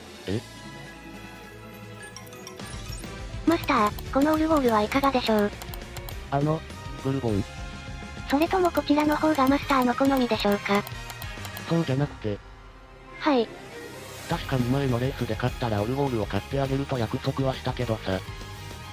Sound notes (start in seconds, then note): 3.5 click click; 10.9 click click